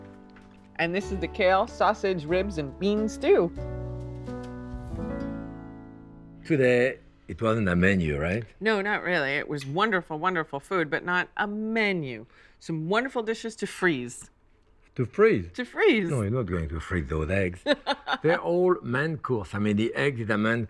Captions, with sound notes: And this is the kale, sausage, ribs, and bean stew. -Today, it wasn't a menu, right? -No, not really. It was wonderful, wonderful food, but not a menu. Some wonderful dishes to freeze. -To freeze? -To freeze. -No, you're not going to freeze those eggs. -[ Laughs ] -They're all main course. I mean, the eggs are the main course.